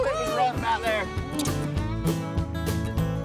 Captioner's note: smooch